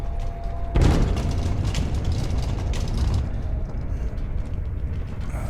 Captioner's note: banging and rattling